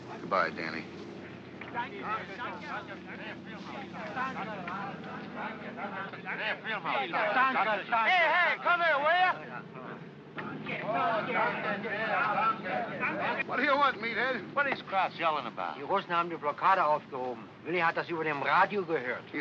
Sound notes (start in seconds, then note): 1.7 workers speaking in German; 10.4 workers speaking in German; 15.8 speaking in German